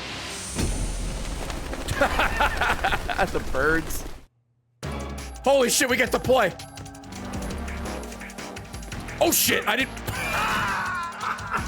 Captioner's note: laughs